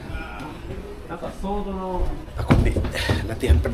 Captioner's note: speaking Japanese